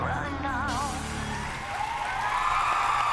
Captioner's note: cheering